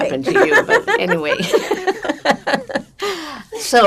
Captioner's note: laughing